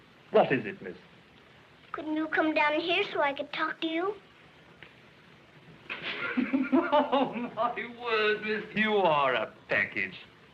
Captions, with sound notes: What is it, Miss? Couldn't you come down here so I could talk to you? [chuckling] oh, my word, Miss! You are a package!